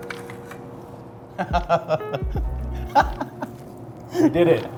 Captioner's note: laughing